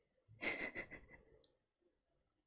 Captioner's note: laughs